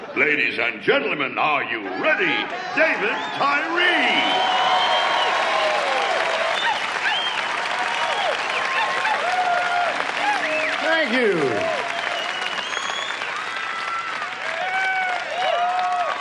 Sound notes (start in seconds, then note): 0.0 audience laughs; 4.3 audience cheers and applauds; 12.9 audience cheers